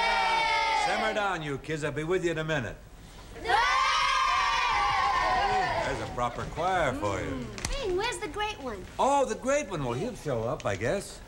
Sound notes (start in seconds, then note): 0.0 children shouting; 3.4 children shouting